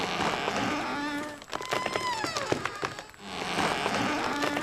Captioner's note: creaking